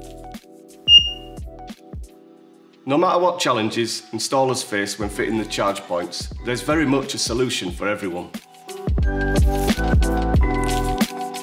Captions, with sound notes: (charger beeps) No matter what challenges installers face when fitting the charge points, there's very much a solution for everyone. (chill music)